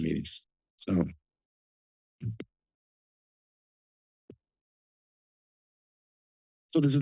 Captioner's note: silence